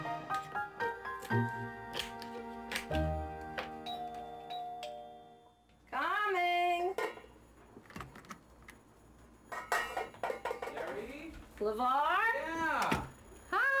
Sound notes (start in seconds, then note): 0.2 chopping vegetables; 3.8 doorbell ringing; 9.5 lid clattering